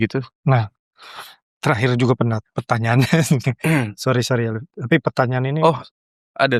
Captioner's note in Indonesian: berdehem